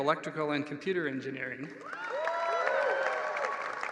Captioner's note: applause